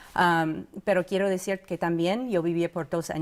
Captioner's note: in Spanish